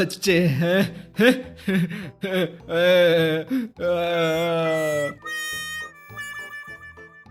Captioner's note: inside crying and regretting